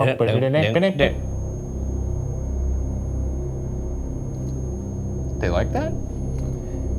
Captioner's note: slow tense music; REM-pod beeps